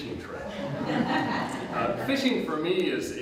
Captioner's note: audience Laughter